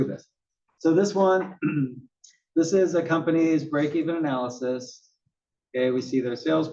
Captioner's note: cough